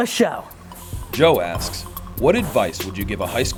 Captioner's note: voiceover